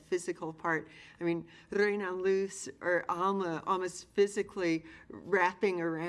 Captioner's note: speaking in foreign language